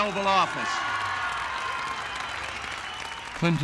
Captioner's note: cheers and applause